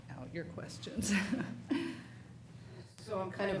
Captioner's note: laughs